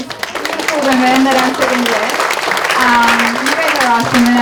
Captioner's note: audience applauds